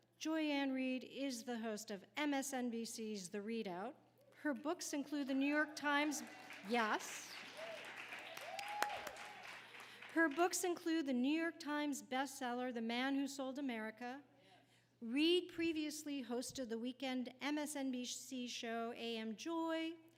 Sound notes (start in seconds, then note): 5.7 audience applauding; 8.6 claps